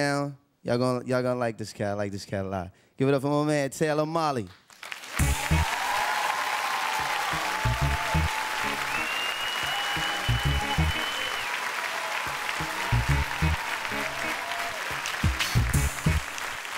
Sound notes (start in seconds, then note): 5.4 cheering; 8.7 whistling